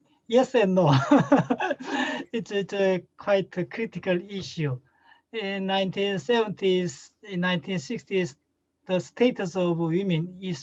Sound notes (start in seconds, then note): 0.9 laughs